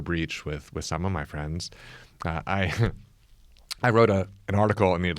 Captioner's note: laughs